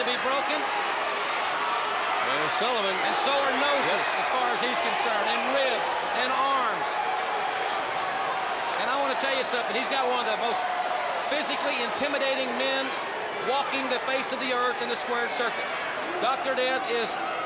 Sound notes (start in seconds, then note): 1.4 crowd cheering